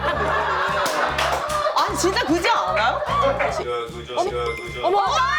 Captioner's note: nagging fiercely